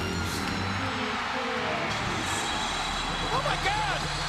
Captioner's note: crowd cheering